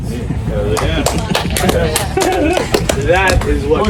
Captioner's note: audience applause